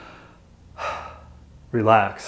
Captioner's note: exhales